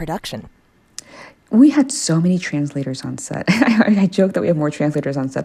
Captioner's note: laughter